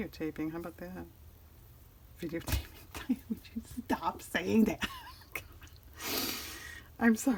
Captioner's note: laughs